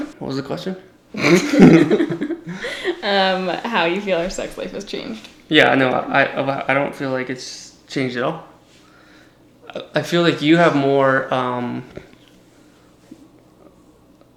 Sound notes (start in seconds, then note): 1.2 laughs